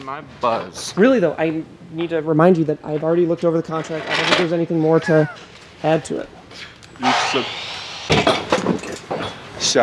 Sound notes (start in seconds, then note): 7.4 loud construction equipment